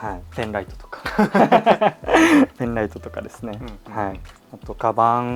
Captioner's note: laughter